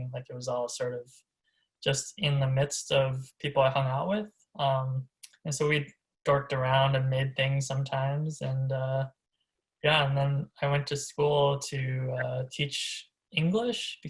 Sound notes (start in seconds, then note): none